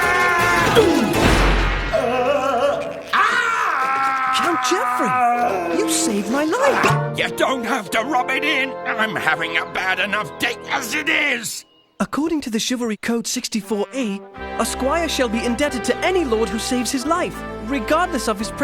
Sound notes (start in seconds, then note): 1.9 screaming; 2.0 grunting